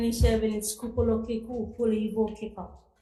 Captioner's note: speaking in foreign language